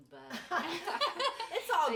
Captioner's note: all laughing